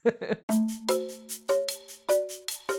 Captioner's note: laughter